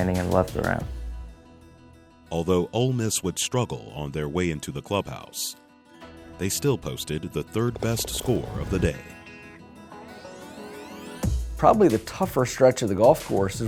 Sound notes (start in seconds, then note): 2.5 voiceover